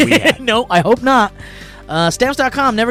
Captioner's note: laughs